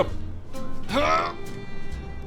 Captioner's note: hrrggggh